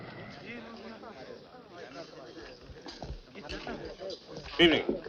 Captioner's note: people chattering